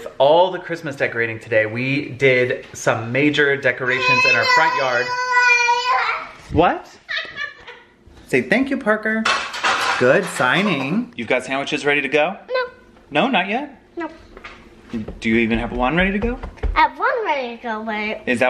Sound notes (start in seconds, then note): 3.9 baby babbling; 7.0 laughing